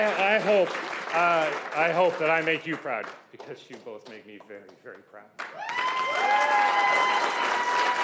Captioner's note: applause